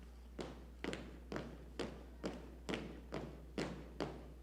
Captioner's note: footsteps marching